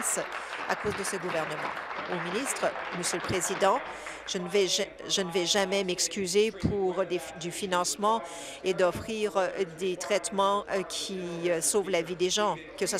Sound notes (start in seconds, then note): 5.9 applause